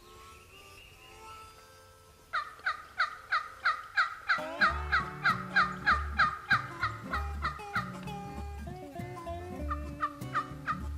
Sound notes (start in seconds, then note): 0.0 harmonica plays; 2.3 turkey call yelps; 6.7 country music